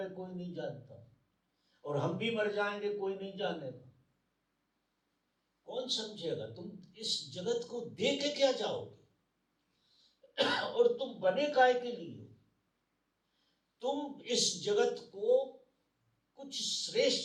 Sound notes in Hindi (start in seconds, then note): 10.2 गला साफ़ करने की आवाज़